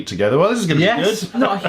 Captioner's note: laughing